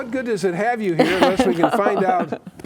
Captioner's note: laughing